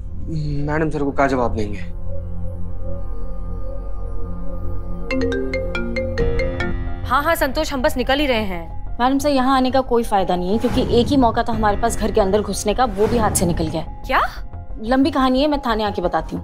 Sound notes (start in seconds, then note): 4.9 phone ringing